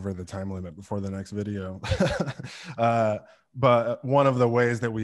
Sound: laughs

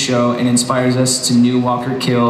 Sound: none

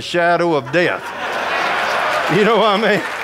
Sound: audience laughing

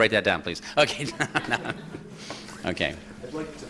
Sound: laughter

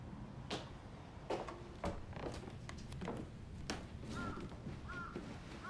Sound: footsteps approaching; distant bird squawking

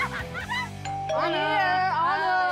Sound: laughing; doorbell ringing

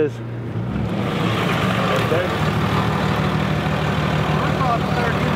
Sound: truck engine vibrating

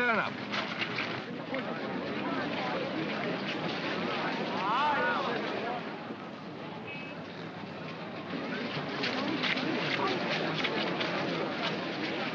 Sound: crowd murmuring

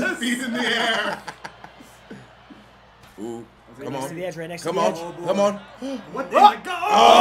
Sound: laugh

